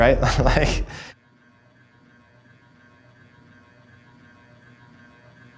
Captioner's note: laptop fan whirring